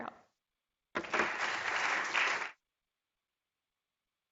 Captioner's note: applause